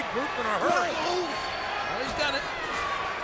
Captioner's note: Rob grunting